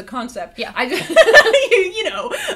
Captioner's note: laughs